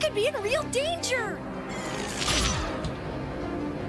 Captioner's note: zapping sound